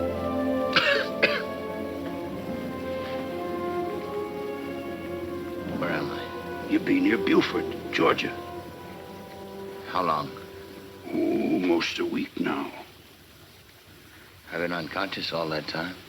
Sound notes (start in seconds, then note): 0.7 Jim coughing